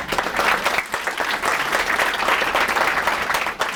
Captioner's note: applause